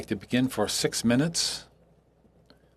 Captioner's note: speaking French